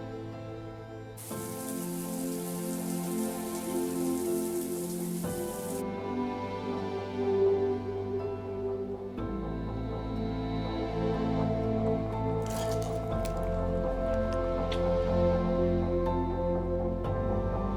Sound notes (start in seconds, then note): 1.2 sound of shower